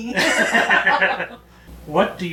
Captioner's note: both laughing